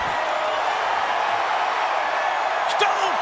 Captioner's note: crowd cheers